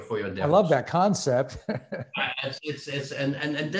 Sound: laughs

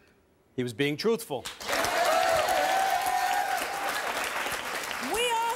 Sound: audience cheering and applause

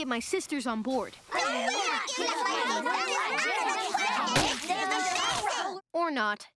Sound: arguing

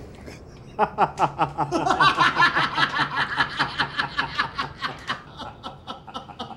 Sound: laughter

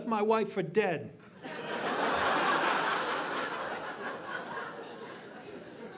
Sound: audience laughing

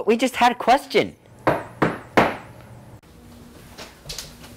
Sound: knock at the door

